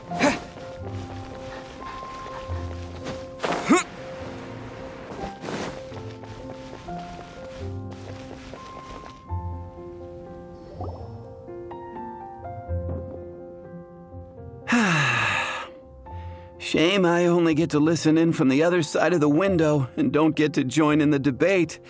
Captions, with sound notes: *sigh* Shame I only get to listen in from the other side of the window and don't get to join in the debate.